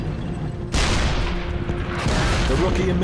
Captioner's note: shell exploding; tank engine whirring; shell explodes; 88 gun firing